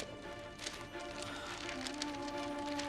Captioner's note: sighs; uplifting music playing